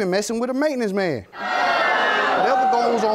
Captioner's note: audience jeering